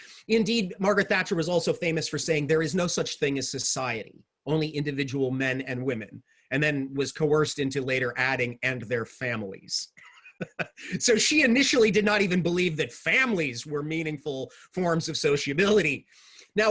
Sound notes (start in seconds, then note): 9.9 laughing